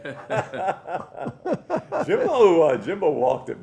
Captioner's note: laughter